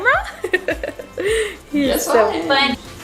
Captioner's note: giggles